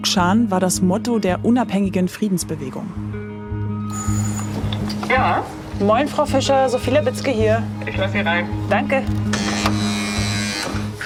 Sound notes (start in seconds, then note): 3.9 bell